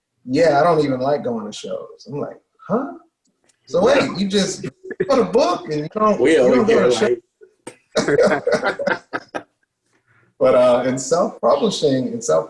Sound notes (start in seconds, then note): 7.6 laughs